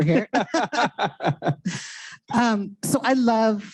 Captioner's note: chuckles